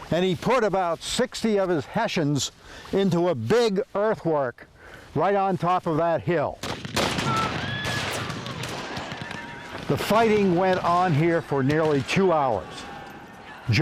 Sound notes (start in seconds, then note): 6.6 guns firing